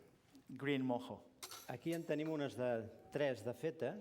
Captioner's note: non-english speech